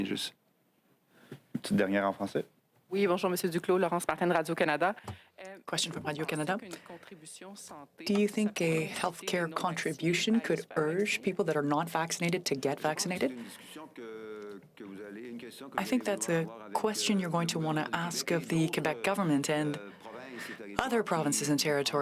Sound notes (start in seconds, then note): 5.5 speaking French